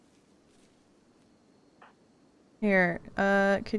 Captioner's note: none